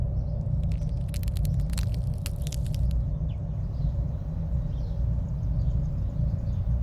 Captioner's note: birds chirping; creaking bones